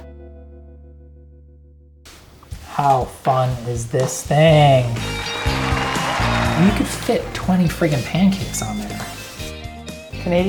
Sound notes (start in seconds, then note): 4.5 audience clapping; 8.7 upbeat music